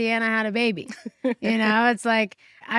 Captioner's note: chuckles